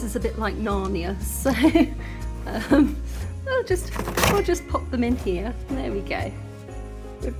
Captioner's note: laughing